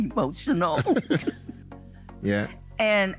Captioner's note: laughing